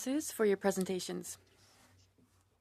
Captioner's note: speaking French